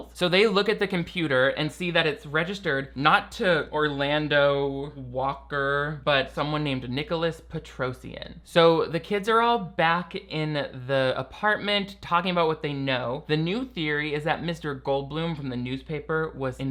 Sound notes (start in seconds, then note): none